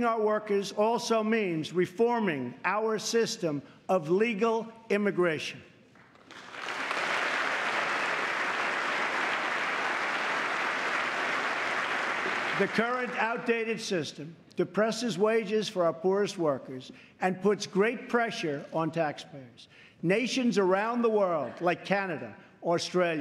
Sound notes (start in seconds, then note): 7.7 applause